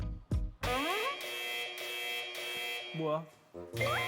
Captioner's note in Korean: 삐익 삐익 삐익 삐익; 갑자기 울리는 경고 사운드...?